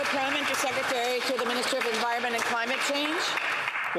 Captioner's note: applause